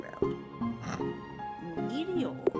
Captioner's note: immature snicker